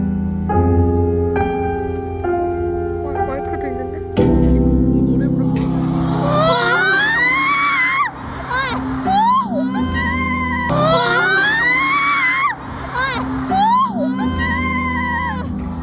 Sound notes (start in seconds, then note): 5.8 crowd cheers; 6.4 ahhhhh